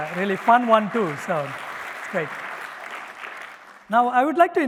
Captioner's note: applause